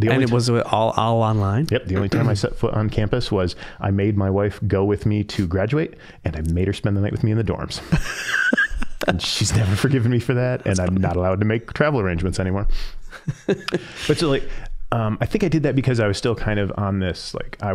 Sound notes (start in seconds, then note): 7.8 both laughing